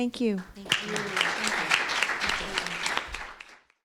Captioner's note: applause